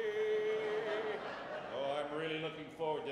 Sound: audience laughs

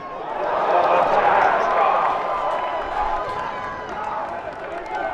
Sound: cheering

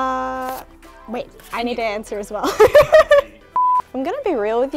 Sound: laughs

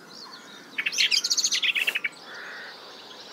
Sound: bird alarms

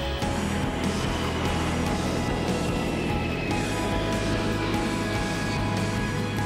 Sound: 747 taking off

